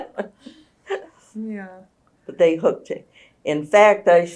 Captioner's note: laughter